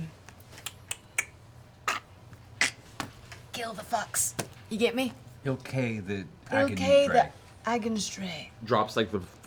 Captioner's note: choking